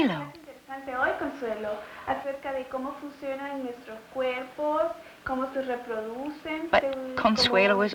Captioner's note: speaking Spanish